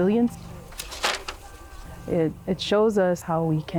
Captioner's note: sticks clanking